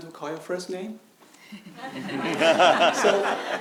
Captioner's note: audience laughing